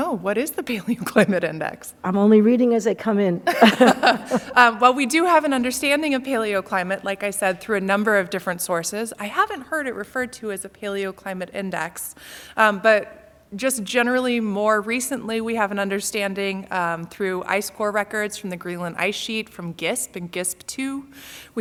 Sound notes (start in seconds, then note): 3.4 laughter